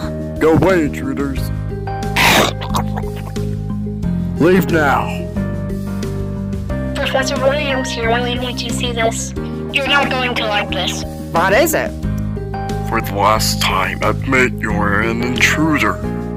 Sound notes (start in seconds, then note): 2.2 loud chomps on sausage